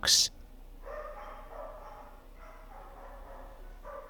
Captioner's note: dogs bark